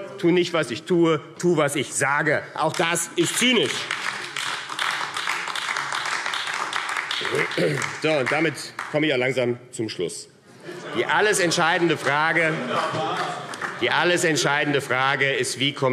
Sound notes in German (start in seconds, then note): 3.2 Beifall AfD